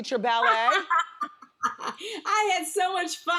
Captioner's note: Debbie laughs